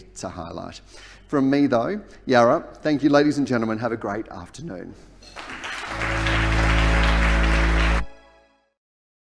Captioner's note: applause